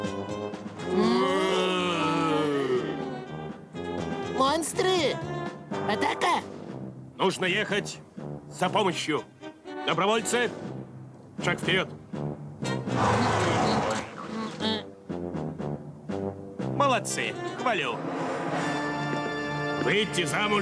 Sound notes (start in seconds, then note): 12.9 horses snorting